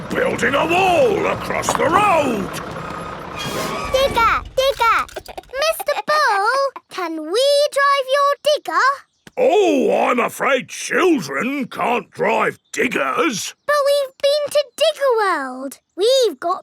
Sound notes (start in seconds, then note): 5.2 chuckles